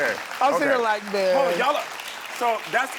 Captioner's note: audience applauds